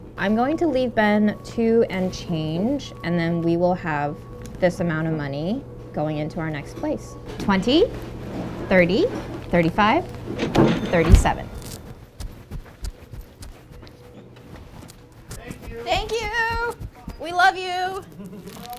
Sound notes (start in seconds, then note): 9.6 cash register ringing